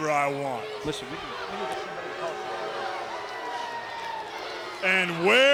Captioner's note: audience jeers